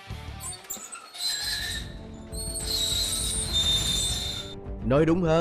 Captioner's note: creaking sound of the metal door